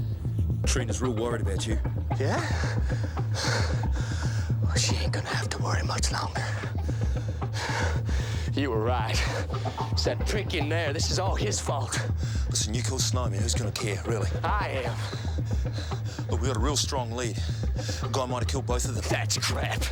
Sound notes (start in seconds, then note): 2.1 panting